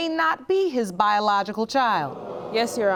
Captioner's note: audience gasping